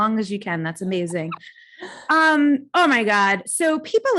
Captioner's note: laughs